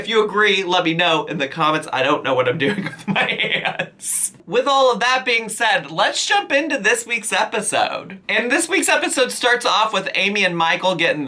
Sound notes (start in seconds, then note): 2.7 laughs